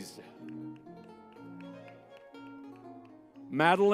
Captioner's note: lively music; crowd applauding